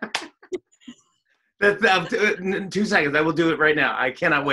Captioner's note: laughs